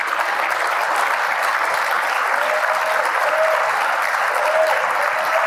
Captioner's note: applause